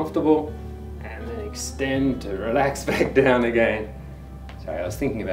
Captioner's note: laughs